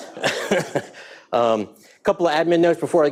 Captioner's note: all laughing